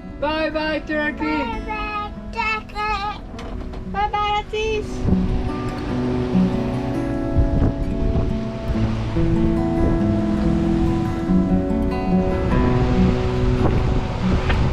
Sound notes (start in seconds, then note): 5.0 upbeat music; 5.0 water splashing